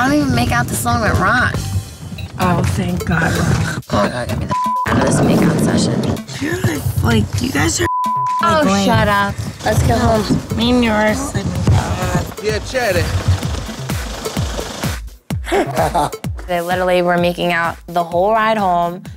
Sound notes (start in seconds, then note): 4.4 beep; 7.8 beep; 12.4 speaking in a foreign language; 15.4 Mike laughing